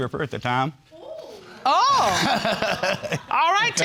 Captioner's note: laughs